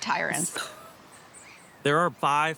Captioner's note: chuckles